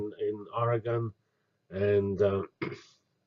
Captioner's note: cough